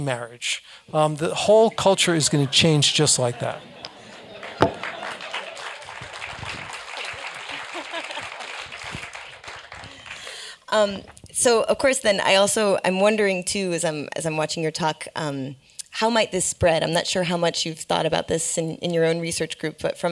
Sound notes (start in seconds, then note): 3.9 applause; 6.8 laugh